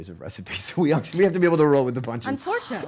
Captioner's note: laughing